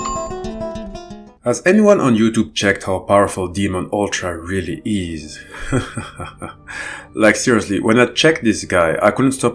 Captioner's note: laughs